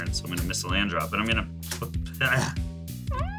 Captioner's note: grunts; cute metal noise